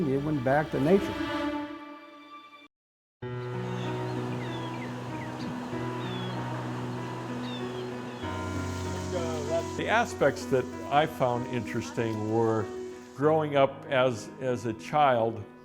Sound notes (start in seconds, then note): 3.2 gentle, quiet music; 3.3 birds chirping